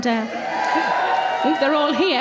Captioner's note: audience cheering